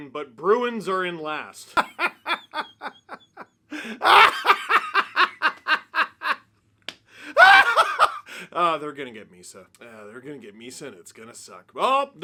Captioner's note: maniacal happy laughter